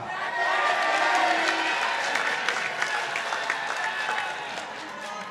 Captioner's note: participants applauding